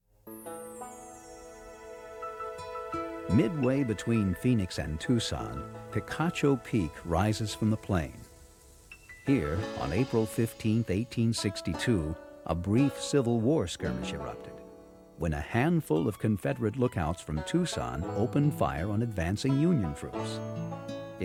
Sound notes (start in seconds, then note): 0.2 light orchestra music; 3.1 voiceover